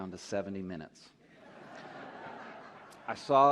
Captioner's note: laughter